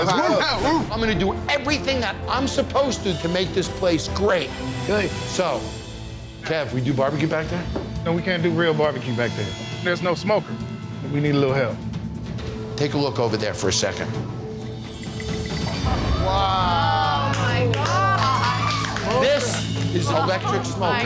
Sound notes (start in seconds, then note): 14.6 chimes chime; 18.0 cheering